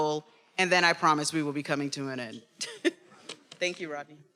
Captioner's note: laughs